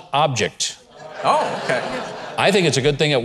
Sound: crowd laughing

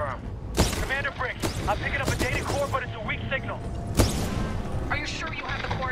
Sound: radio

